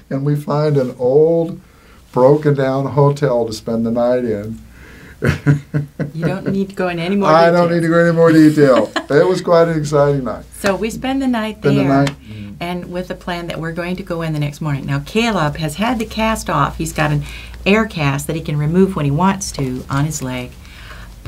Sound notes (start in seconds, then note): 5.2 laughing